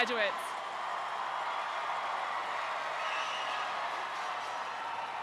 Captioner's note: attendees cheering